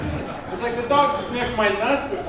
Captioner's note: audience laughing